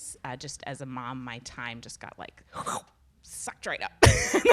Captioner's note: slurps in air; laughs